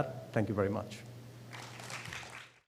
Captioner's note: applause